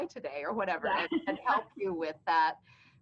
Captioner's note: laughing